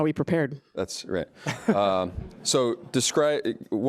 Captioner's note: audience laughs